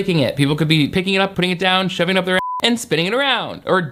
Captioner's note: beep